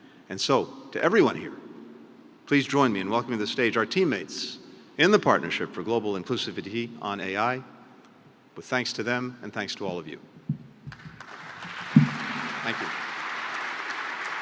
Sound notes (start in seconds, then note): 10.9 applause